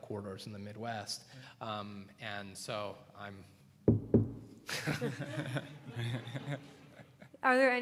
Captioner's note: laughter